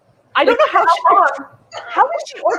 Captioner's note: laughing